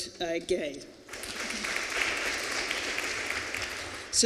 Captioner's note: applause